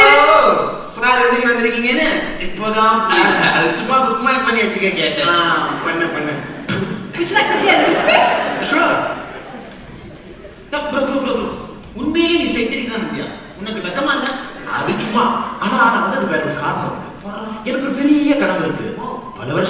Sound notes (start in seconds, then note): 7.0 spits